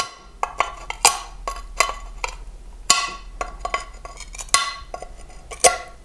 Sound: grinding and snapping

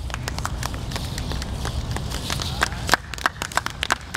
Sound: audience applauding

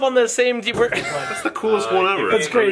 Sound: laughing

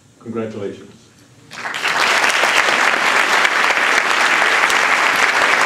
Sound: applause

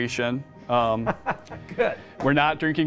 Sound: laughs

